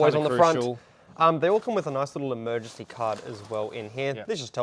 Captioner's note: pat